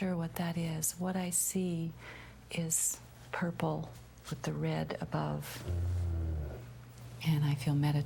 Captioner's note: 低语